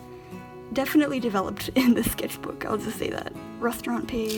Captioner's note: laughing